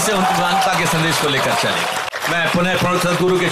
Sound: applause

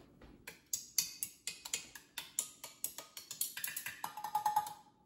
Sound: chopsticks tapping

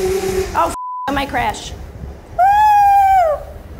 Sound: computer bleeps

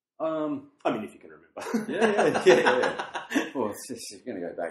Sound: laughs

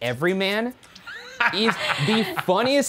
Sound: laughing

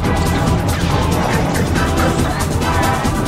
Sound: laughing heroically

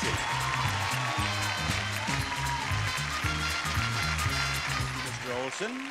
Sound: exciting music; audience cheering

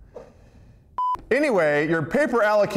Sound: beep

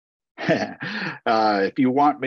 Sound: laughs

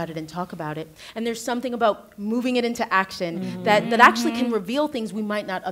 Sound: others agreeing

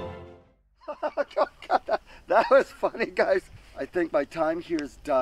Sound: laughs

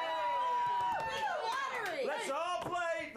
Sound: audience cheering

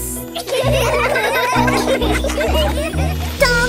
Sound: laughter; singing

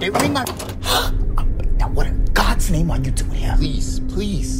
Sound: gasp

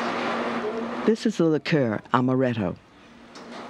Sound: voiceover

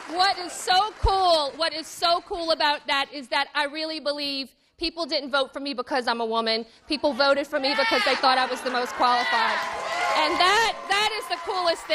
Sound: cheers and applause

